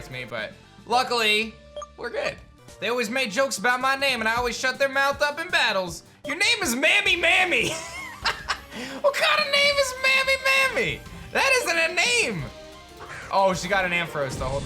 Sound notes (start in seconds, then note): 7.7 laughs